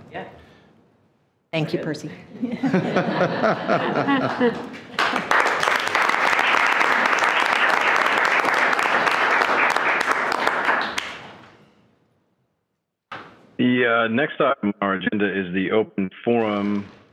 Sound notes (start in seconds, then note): 2.2 attendees laughing; 5.3 attendees clapping